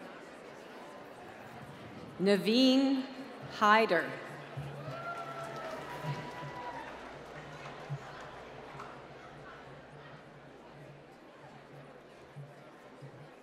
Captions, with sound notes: Navine Haider. (applause)